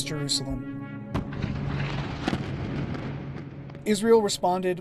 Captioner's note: explosions